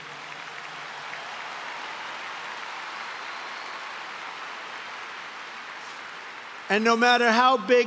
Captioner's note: applause